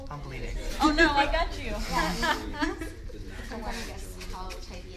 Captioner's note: laughing